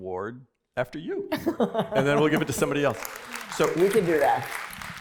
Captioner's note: laughter; applause